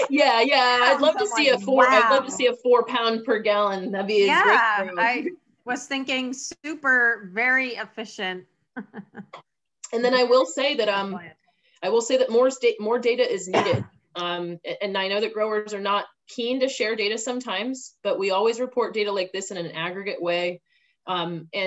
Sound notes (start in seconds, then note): 8.7 chuckles